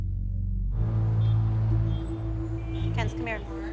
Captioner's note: cars honking